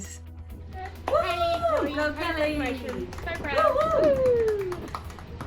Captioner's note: man and women applauding